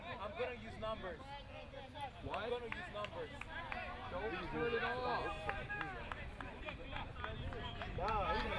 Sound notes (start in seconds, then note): 0.6 field chatter